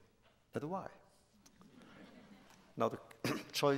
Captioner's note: laughter